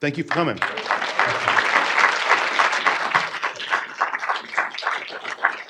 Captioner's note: audience applauding